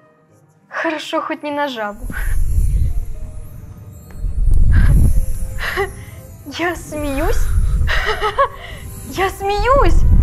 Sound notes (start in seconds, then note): 1.6 sound of magic